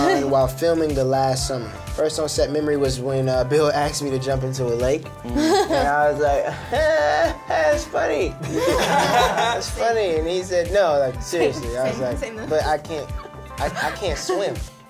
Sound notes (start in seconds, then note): 5.3 laughs; 8.4 laughs